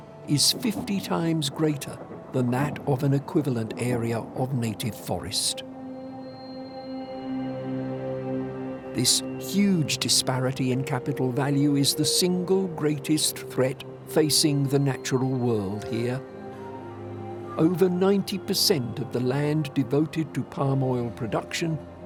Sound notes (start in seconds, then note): none